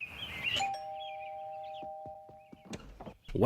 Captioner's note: ding dong